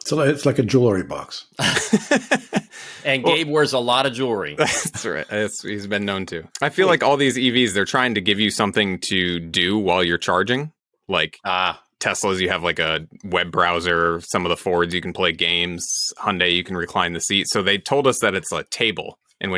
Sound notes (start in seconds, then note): 1.6 laughs